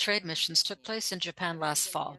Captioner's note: speaking French